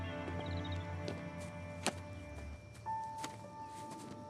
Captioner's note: birds singing; pensive piano music